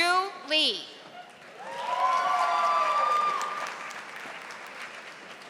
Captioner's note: audience applauding